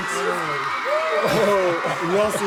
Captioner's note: applause; laughter